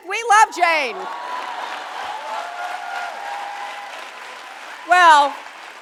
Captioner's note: audience applauding